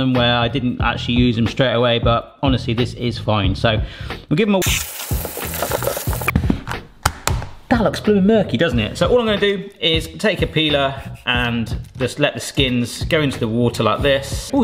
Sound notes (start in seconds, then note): 4.6 water running